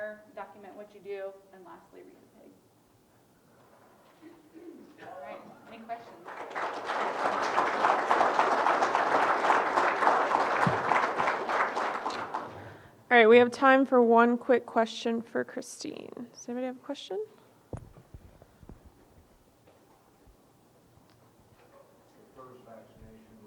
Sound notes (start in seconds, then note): 2.5 audience clears throat; 9.2 audience applauding